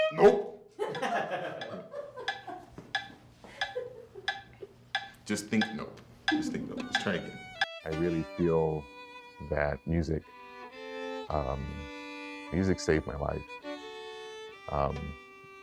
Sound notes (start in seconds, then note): 0.8 laughing